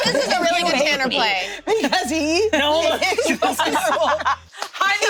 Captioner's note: laughs